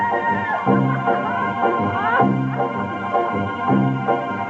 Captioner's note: boy laughs